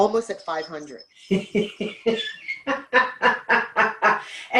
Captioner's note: laughter